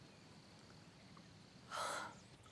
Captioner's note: gasps